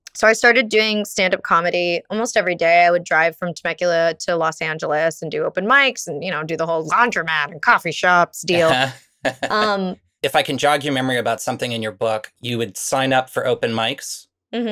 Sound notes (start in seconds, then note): 9.2 laughs